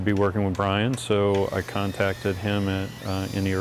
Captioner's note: drill buzzes